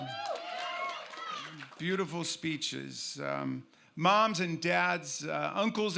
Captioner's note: cheers